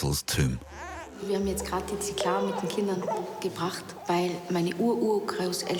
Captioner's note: speaking foreign language